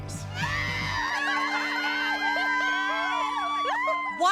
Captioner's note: squealing, cheering